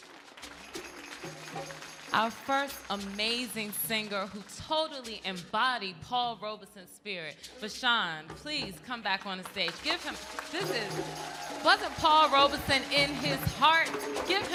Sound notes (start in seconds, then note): 0.0 audience applauding; 9.5 crowd cheering